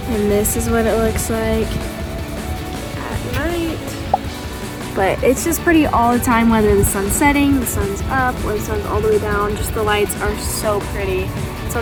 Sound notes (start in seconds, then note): 4.2 air pops